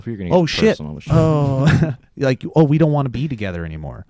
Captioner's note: chuckles